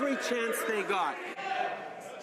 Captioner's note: some Applause